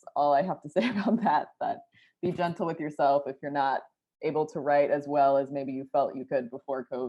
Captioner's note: laughter